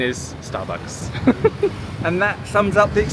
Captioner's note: laughs